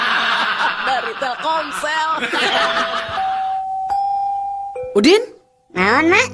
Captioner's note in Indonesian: tertawa